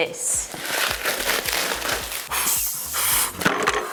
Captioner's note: bubble wrap crackles; exhales; box scrapes; box thuds